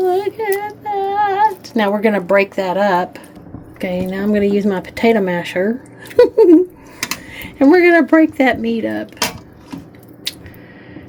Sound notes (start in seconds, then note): 6.0 laughing